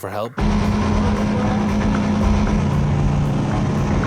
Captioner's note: engine roars